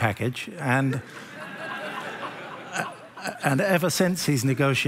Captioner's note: laughter